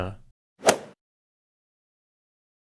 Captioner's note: swoosh